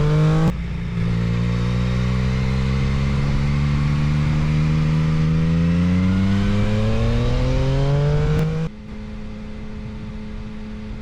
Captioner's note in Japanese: エンジン音